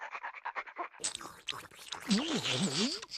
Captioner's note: panting; Tweety salivating